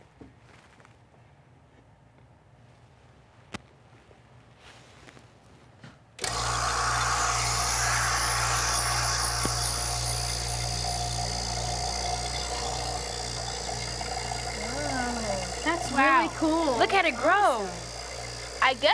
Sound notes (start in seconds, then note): 6.9 whirring